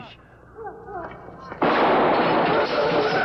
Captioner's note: gunshot